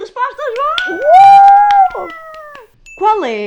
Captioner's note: the crowd goes wild